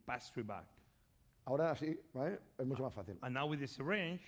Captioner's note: speaking spanish